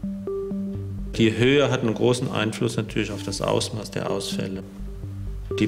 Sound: German

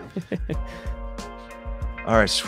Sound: laughs

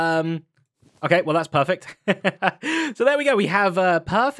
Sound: chuckles

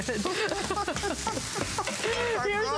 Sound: laughter

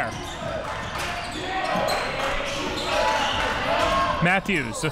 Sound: crowd cheering

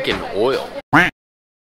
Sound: duck Quack

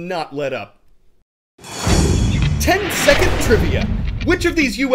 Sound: voice-over

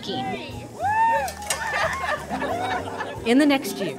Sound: laughing

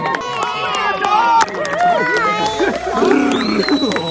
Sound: clapping

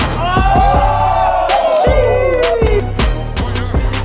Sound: crowd cheering

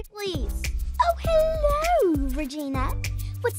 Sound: british accent

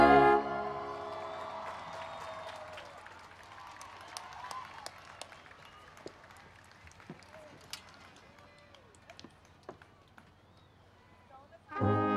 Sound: cheering and Applause

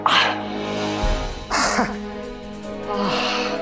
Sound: gasping

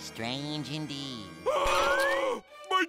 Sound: distant screaming

